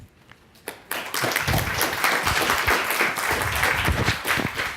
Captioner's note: audience claps